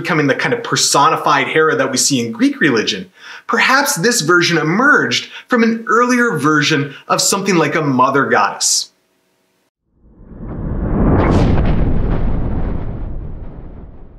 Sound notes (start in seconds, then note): 10.0 thunder